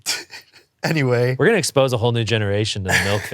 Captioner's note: laughs